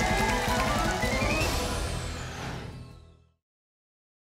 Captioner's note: whoosh